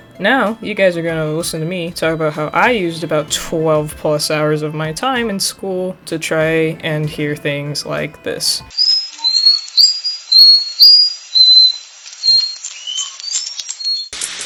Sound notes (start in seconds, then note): 8.7 orcas whistling happily